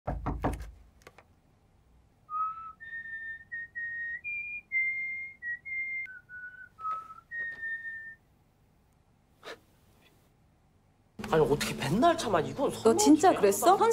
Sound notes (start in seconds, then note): 0.0 knocking; 2.2 whistle